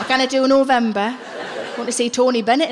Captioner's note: laughing